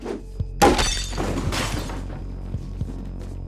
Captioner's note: glass shattering; deep tense music